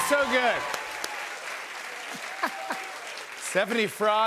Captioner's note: applause